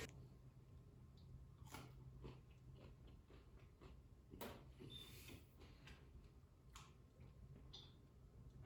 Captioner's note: chewing bacon